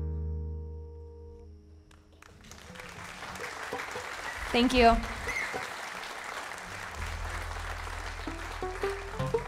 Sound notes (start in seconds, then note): 2.0 audience applauding